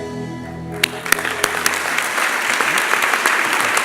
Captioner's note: applause